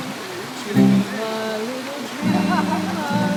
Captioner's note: laughs